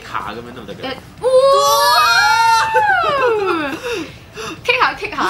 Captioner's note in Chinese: 尖叫